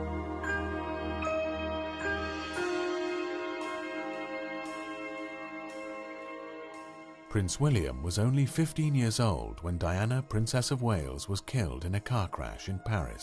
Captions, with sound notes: - [Voiceover] Prince William was only 15-years-old when Diana, Princess of Wales was killed in a car crash in Paris